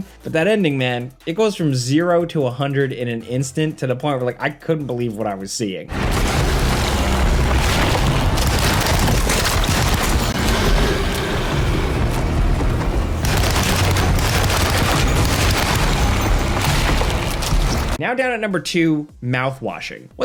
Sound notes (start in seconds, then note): 8.7 dramatic music; 8.7 gunshots firing